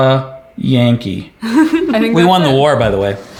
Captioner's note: chuckles